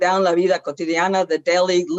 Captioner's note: speaks foreign language